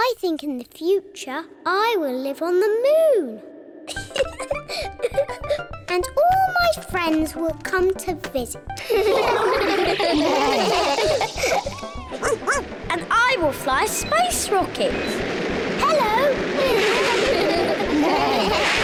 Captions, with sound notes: I think, in the future, I will live on the moon. (LAUGHS) And all my friends will come to visit. (ALL LAUGH) (BARKS) And I will fly a space rocket. -Hello. -(ALL LAUGH)